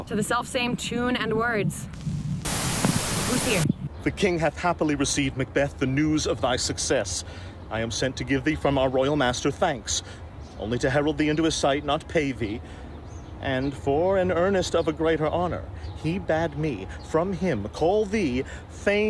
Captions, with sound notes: To the selfsame tune and words. (static) Who's here? The king hath happily received, Macbeth, The news of thy success; I am sent to give thee from our royal master thanks only to herald thee into his sight not pay thee and for an earnest of a greater honor he bade me from him call thee Thane of